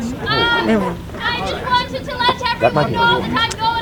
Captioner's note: people chattering